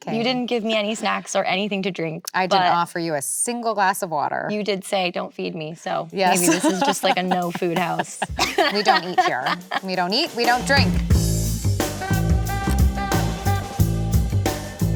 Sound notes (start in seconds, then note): 6.3 laughs; 11.7 sultry jazzy music